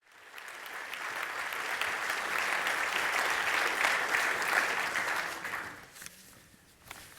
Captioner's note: applause